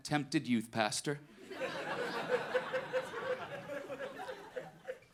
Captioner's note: audience laughing